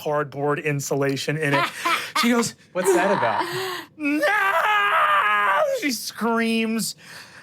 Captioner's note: screams